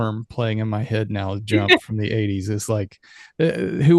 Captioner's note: laughs